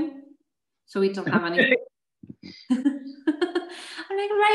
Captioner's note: laughter